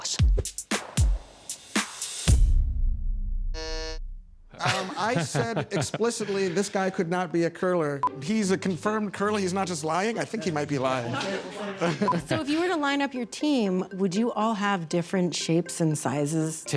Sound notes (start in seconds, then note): 0.0 upbeat music; 3.5 buzzer buzzes; 4.5 laughs